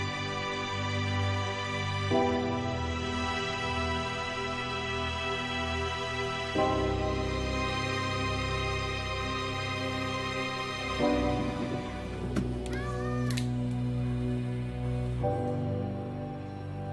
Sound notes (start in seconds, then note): 13.8 gun cocks